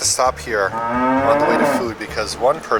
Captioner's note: cow groans